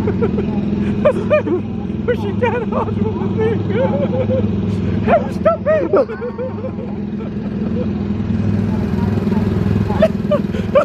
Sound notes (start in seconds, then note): 0.0 laughs; 8.2 laughs